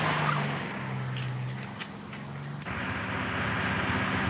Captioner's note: footsteps pattering; car engine roaring